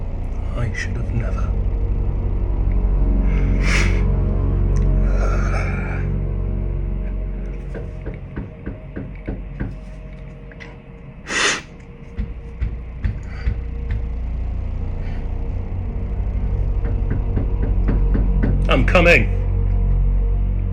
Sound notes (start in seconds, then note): 3.3 sniffs; 7.6 knocking